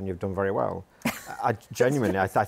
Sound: chuckles

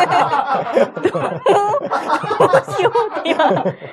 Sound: laughs

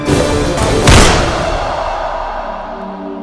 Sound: gun shot

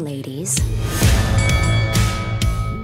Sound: match bell rings; upbeat music

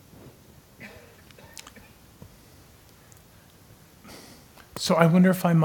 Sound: cough

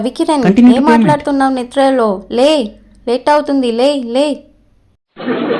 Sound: speaking

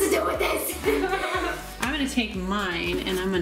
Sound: laughing

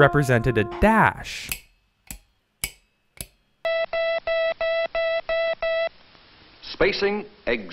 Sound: sound of letters being sent by morse code

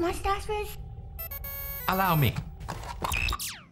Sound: X-Powder beeping

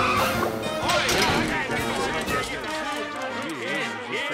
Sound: clamoring

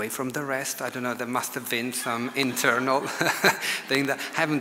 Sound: audience laughs

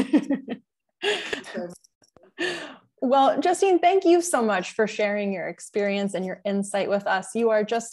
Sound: laughter

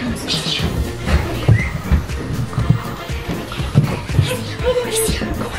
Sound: squeals

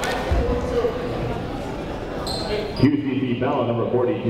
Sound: people talking in the crowd

